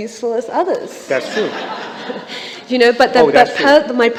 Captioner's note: laughter